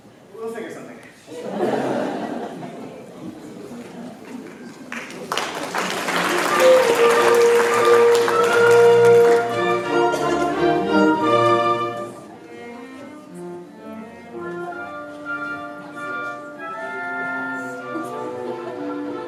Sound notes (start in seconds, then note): 1.3 laughter; 4.4 applause